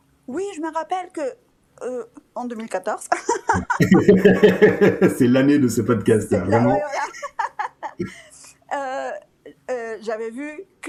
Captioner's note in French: rires